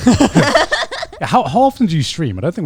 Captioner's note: everyone laughing